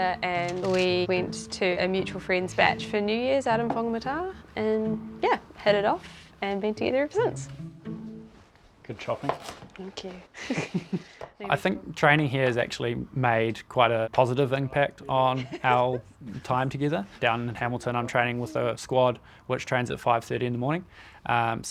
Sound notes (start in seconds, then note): 10.3 both chuckle